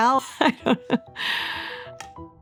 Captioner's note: laughs